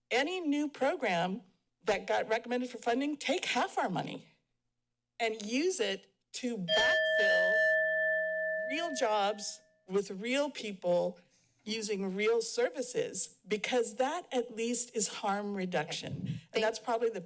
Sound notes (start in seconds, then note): 6.7 timer dings